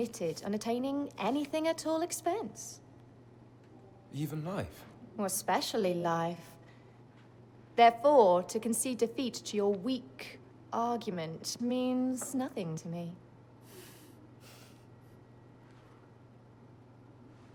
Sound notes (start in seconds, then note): 13.6 both chuckle